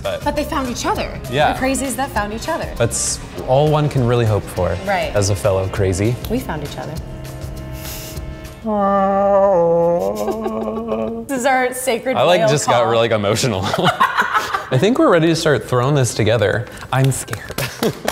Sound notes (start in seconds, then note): 7.2 imitates whale call; 13.5 laughter